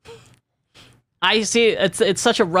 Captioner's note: laughs